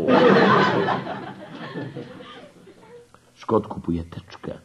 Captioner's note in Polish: śmiech